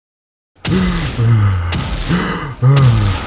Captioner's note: fat man breathing heavily, heavy footsteps